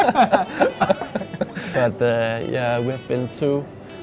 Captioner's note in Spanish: risas